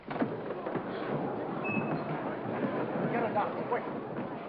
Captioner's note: audience murmurs